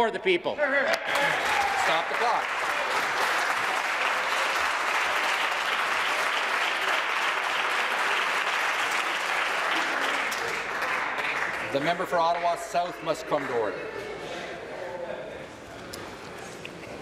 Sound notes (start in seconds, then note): 4.6 applause